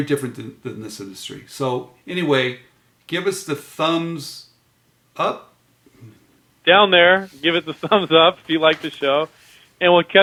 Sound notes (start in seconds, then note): 7.4 laughs